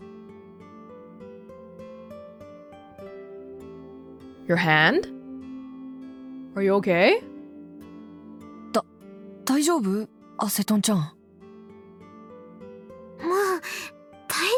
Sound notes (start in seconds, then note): none